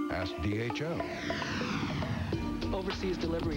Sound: whoooooosh

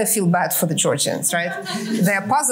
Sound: laughter

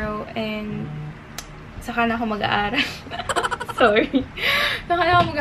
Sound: hehehehe

